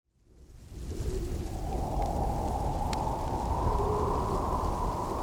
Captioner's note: wind howls